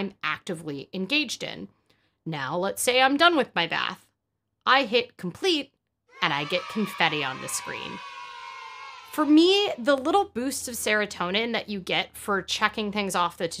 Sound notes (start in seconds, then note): 8.2 children cheering yay